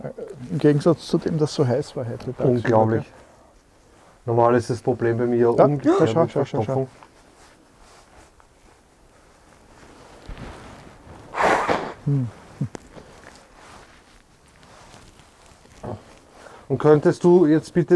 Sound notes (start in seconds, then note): 8.0 wind in the background